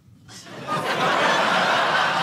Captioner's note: audience laughing